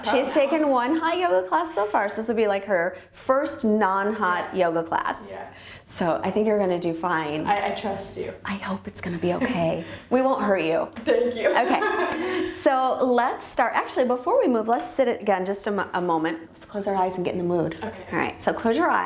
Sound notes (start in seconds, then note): 11.1 laughs